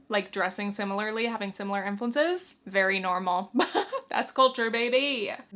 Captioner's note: chuckles